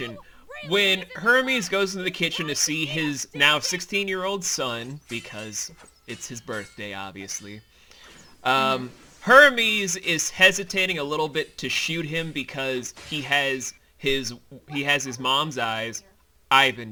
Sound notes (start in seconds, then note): 4.9 steel clashes resume